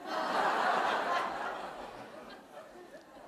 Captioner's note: laughter